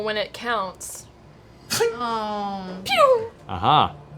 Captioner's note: ricochet noise